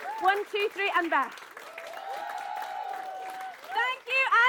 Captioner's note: cheering